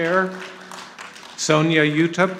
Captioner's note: audience applauding